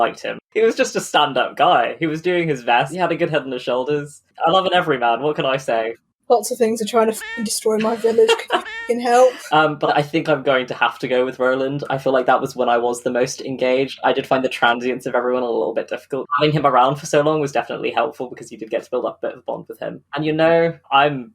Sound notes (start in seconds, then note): 6.3 exhaustedly; 9.5 laughs